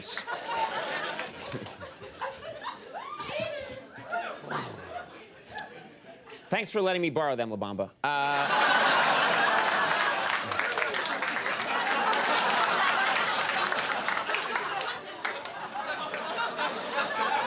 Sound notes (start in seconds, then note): 0.0 crowd laughs; 8.4 crowd laughs; 10.4 crowd cheers; 12.7 crowd laughs